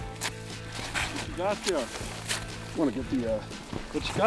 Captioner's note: voiceover